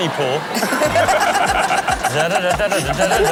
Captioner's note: everyone laughs